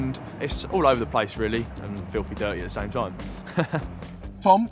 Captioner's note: laughs